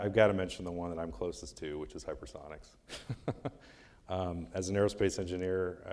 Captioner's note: laughing